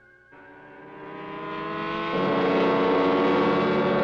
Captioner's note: loud modulating